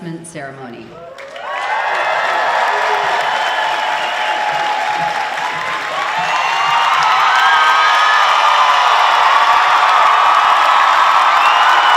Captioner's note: applause